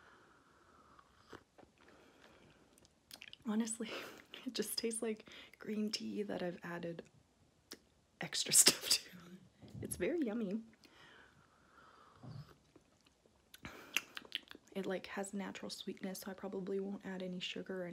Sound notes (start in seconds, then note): 13.5 mouth noises